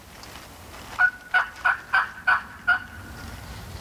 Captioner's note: calling